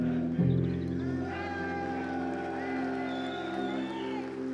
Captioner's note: reflective music; team cheering